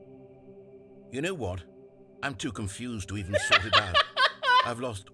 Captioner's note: laughs